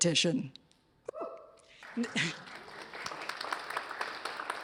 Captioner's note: applause